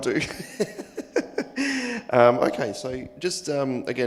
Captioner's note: laughs